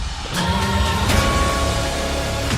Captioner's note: bell tolls